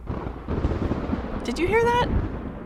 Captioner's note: thunder rumbles